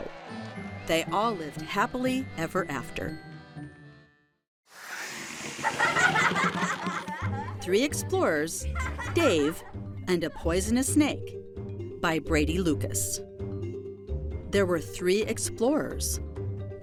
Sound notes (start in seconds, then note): 6.6 children laughing; 6.6 logo whooshing